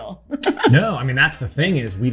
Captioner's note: laughter